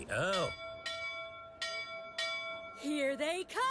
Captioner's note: ding-Ding! Ding-Ding!